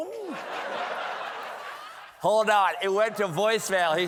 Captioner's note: laughter